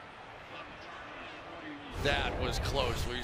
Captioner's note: pa announcement